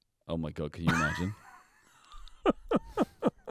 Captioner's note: laughing